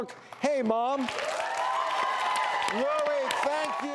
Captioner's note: applause